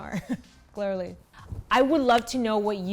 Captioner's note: chuckles